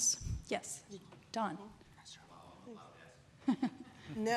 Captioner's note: chuckles